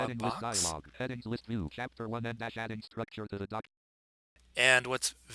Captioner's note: synthesized speech